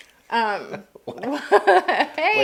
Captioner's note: laughing